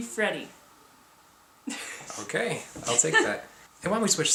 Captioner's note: giggles